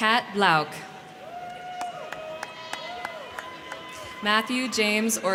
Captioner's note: crowd cheering; crowd clapping